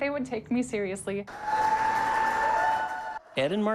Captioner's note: guests cheering